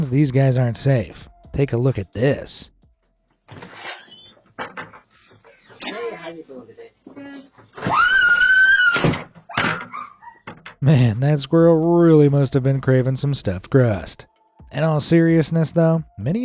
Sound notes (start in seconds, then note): 3.4 door creaking; 7.8 speaker screaming; 8.9 door thuds